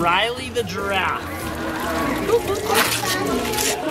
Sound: dispenser whirl; hand towel rips

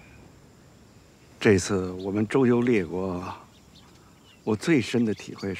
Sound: speaking Chinese

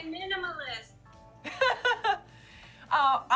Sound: laughter

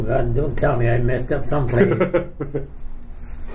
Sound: laughs

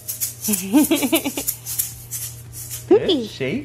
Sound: giggling

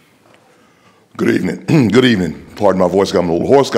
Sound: clearing throat

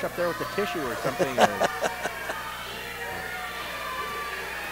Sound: Tony laughing

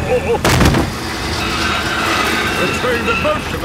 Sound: thud

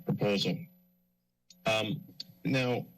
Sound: pause

